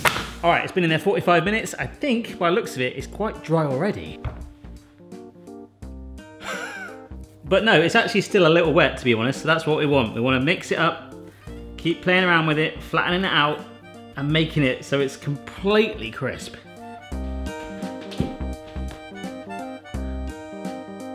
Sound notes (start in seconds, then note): 6.4 laughing; 16.9 mellow music